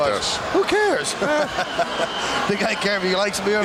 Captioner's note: laughs